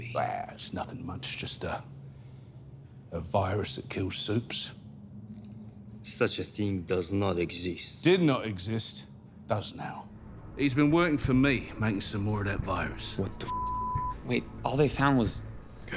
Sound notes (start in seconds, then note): 13.4 beep